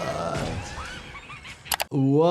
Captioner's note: Pennywise laughing